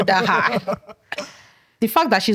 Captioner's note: laughter